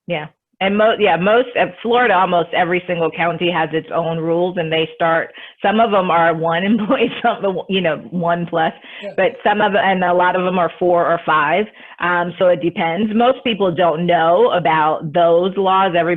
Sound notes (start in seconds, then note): 7.2 chuckles